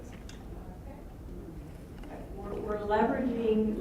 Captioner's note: voiceover